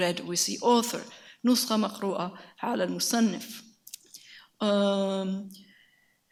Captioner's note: speaks in a foreign language